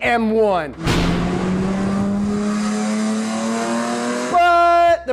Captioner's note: car engine revs